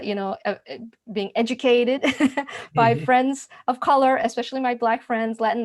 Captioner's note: laughs